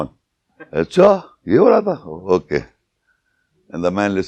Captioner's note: speaking in Urdu